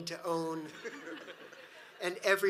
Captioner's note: audience laughs